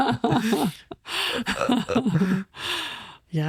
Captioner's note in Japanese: 二人笑い